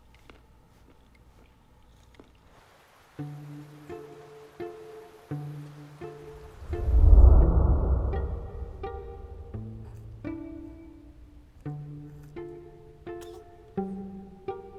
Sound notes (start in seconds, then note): 2.5 soft music playing; 13.2 baby coughs